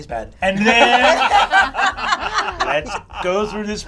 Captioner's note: all laugh